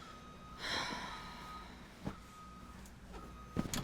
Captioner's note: Fern sighs